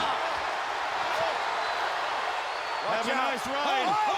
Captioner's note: crowd cheering